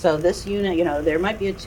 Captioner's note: static sound